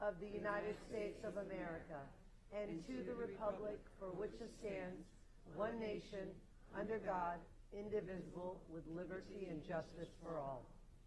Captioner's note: reciting pledge of allegiance